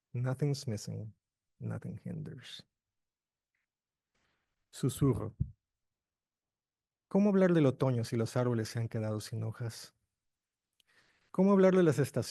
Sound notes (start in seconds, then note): 7.1 speaking in foreign language